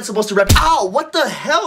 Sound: punching

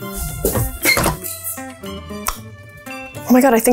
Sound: kettle beeps

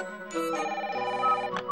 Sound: telephone rings

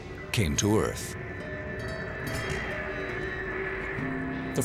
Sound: eerie music; whooshing

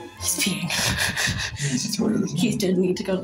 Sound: they giggle

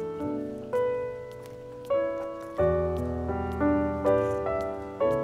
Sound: feet pattering

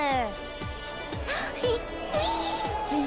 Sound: gasps

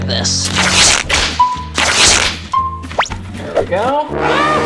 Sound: sound effects

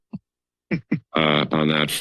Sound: laughs

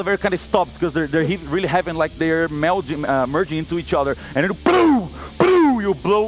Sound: pow pow

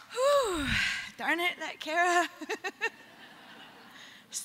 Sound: laughter

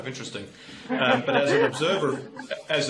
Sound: laughter

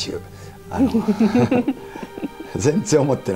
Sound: laughter

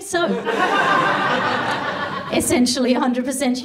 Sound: audience laughs

